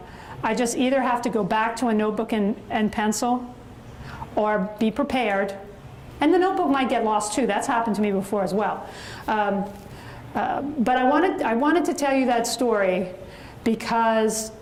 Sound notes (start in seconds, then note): none